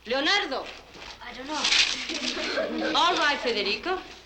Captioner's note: laughter